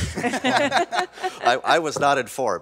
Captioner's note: laughing